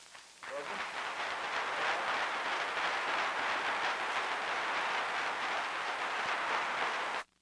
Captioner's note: applause